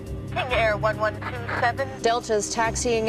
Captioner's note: woman In Radio